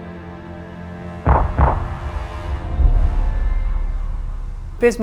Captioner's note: shells fire